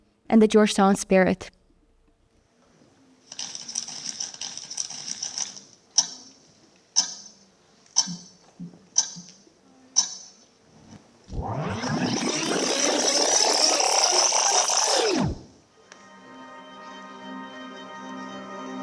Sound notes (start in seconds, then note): 3.7 object clicking; 11.3 record scratching; 15.8 warm music